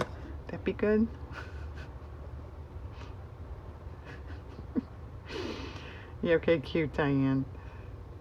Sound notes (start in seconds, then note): 3.9 laughs